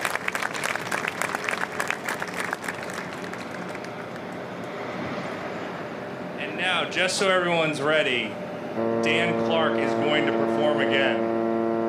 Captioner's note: applause